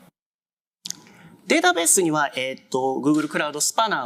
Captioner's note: speaking japanese